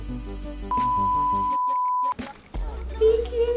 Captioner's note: loud beeping